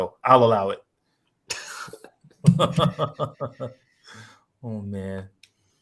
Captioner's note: laughter